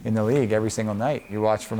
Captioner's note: whistle blowing